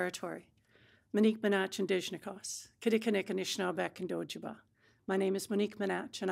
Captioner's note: speaking Anishinaabemowin